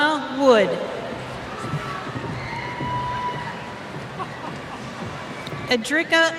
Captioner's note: cheers